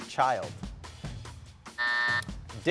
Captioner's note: buzzer buzzing